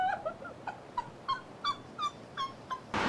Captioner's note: sobbing